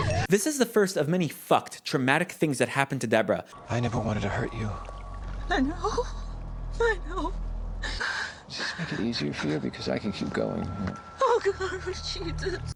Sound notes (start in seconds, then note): 5.4 weeping